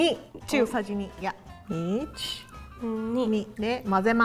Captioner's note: speaking in Japanese